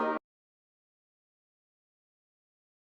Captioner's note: mic cuts out